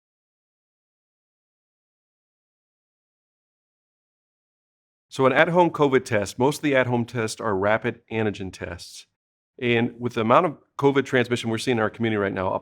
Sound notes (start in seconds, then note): 0.0 silence